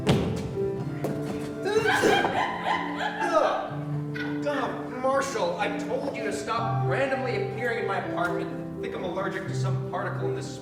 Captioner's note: Bradley sneezes